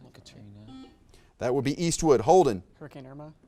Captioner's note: buzzer beeps beeps